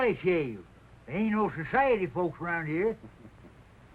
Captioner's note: slade chuckles